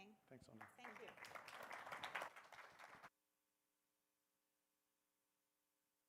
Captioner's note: applause